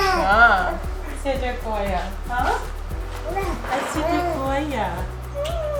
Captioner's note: speaking in foreign language